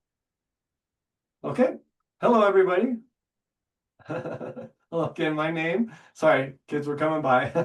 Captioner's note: laughing